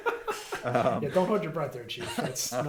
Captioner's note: laughing